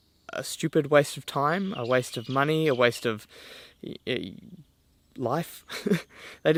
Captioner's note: chuckles